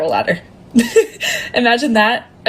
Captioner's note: laughs